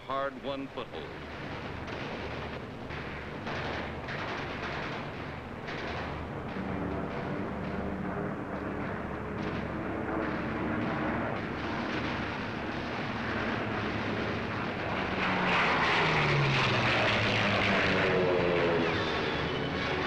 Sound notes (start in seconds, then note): 4.7 sounds of explosions, and planes flying overhead